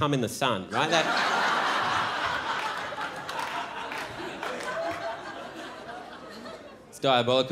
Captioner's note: crowd laughs